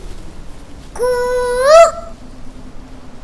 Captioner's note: Mimicking Cuckoo's voice